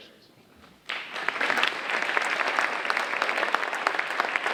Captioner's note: audience applauding